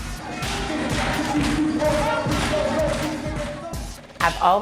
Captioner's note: chanting and clapping